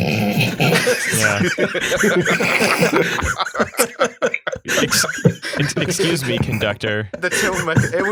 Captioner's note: huge laugh